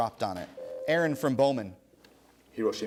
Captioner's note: ding